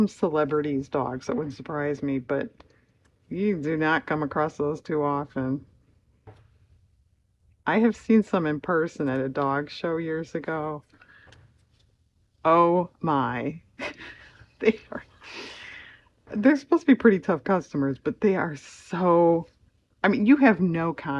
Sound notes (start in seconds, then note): 15.3 laughs